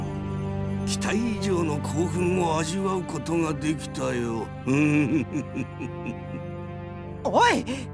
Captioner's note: evil chuckle